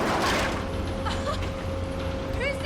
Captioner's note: laughs